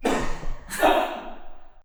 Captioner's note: laughing